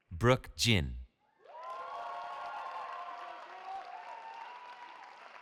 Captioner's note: cheering